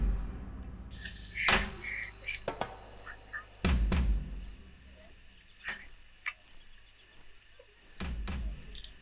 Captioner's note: footsteps clumping; birds whistling